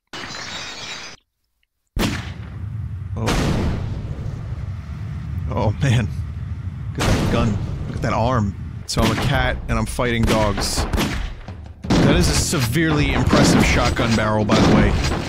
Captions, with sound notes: [Glass shatters] [Explosion] Oh, man. Look at that gun. Look at that arm. [Explosion] So I'm a cat, and I'm fighting dogs. That is a severely impressive shotgun barrel, by the way.